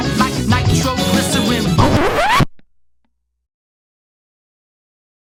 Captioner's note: record Scratch